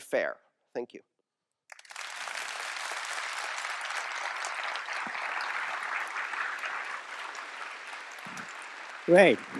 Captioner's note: applause